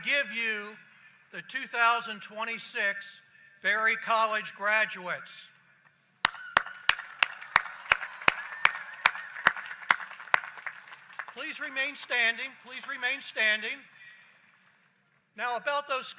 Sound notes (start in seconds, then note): 4.3 applause; 15.8 applause